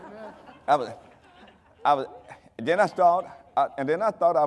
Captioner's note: audience laughing; stammering